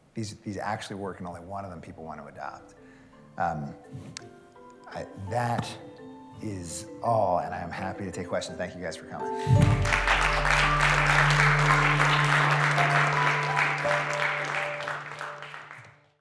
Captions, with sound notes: these actually work, and only one of them, people want to adopt. [LIGHT MUSIC PLAYING] That is all, and I am happy to take questions. Thank you guys for coming. [APPLAUSE]